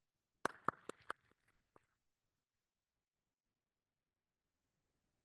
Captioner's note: applauding